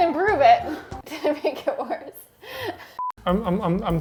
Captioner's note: chuckles